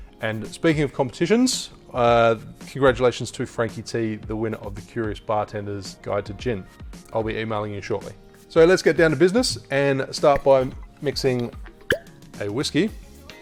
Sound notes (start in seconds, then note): 11.8 lid pops